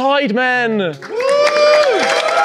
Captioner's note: audience applauds; audience cheers